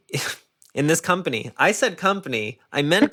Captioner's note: laughs